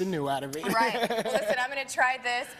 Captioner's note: laughing